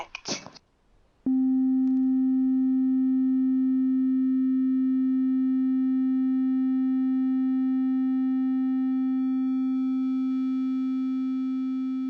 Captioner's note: helium sound effect